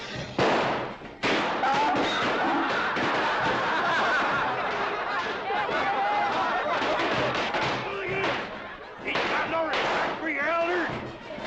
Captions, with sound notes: (Firecrackers explode) (Laughter) Hooligans! Ain't got no respect for your elders.